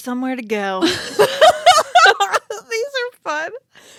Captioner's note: laughing